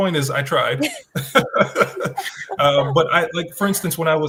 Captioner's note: everyone laughs